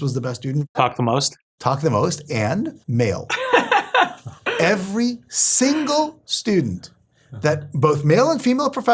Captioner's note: laugh